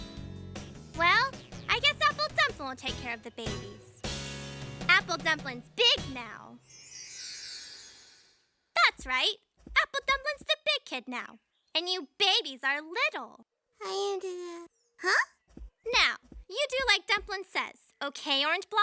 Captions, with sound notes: WELL, I GUESS APPLE DUMPLIN' WILL TAKE CARE OF THE BABIES. APPLE DUMPLIN'S BIG NOW. THAT'S RIGHT. APPLE DUMPLIN'S THE BIG KID NOW. AND YOU BABIES ARE LITTLE. [ Babbles ] HUH? NOW, YOU DO LIKE DUMPLIN' SAYS. OKAY, ORANGE BLOSSOM?